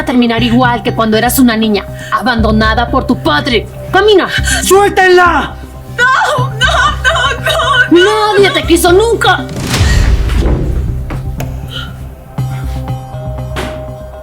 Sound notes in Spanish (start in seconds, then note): 6.6 risas